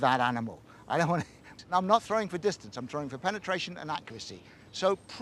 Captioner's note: chortles